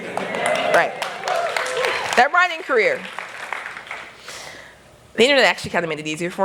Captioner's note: applause